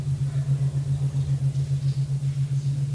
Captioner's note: none